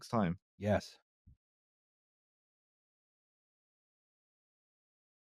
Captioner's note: the sound of an empty podcast